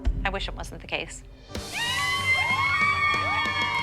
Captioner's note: cheering